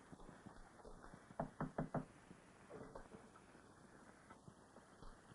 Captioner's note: soft knocking on door